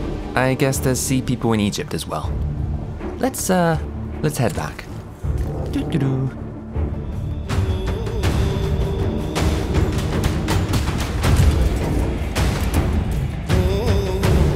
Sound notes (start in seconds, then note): 5.2 hums awkwardly